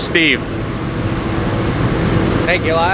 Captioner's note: buzzing sound